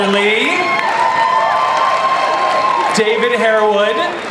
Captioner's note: audience applauds